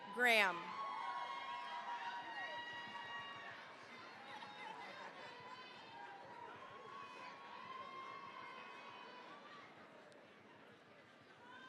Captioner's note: cheering, applause